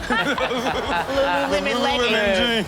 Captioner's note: audience laughs